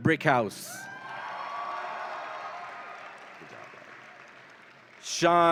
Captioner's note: audience applauds and cheers